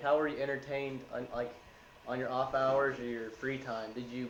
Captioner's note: none